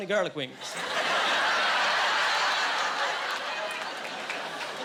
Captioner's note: laughing